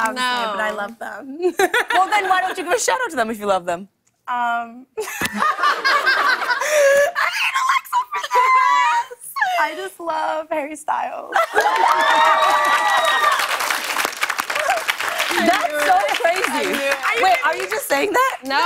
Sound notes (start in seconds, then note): 5.0 laughter; 11.4 cheers and applause